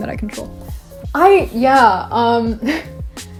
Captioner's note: laughs